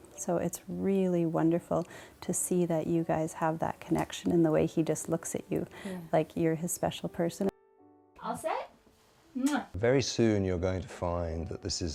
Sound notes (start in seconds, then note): 9.4 kissing